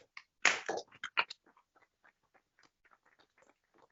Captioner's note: applause